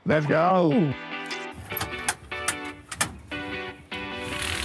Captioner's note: metal clanking; door shuts